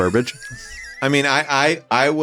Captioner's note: laughs